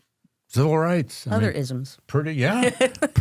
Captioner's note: chuckles